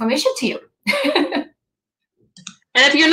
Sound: laughs

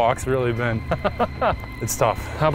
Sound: laughter

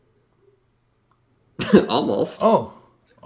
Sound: laughs

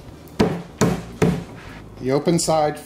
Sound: banging noise

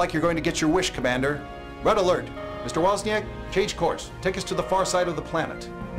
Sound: klaxon

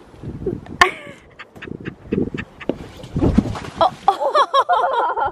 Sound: laughing

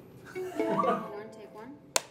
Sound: laughter; snaps clapboard

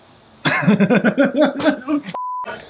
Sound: laughs

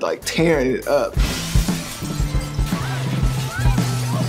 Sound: glass smashing

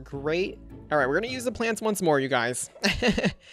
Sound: laughs

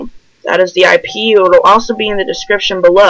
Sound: the Fucking Doorbell

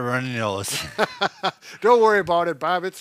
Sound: laugh

